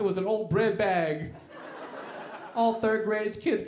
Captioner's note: audience laughing